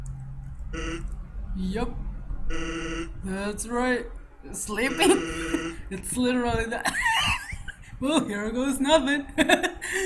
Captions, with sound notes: sleeping? [laugh] "Well here goes NOTHING" HEHEHE